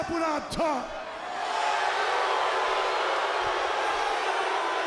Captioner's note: audience booing